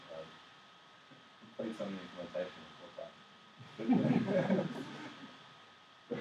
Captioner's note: laughs